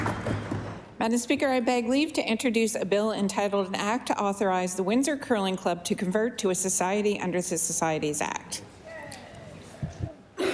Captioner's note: applause